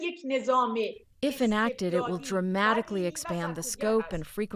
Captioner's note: through translator